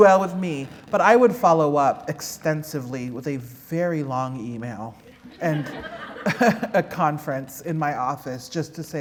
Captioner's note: laughter